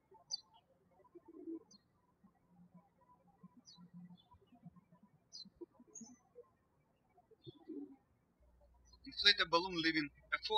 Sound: birds chirping

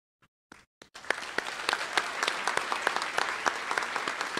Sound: applause

